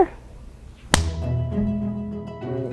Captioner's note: clap